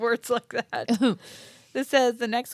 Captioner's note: laughs